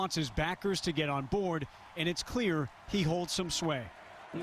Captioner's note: cheering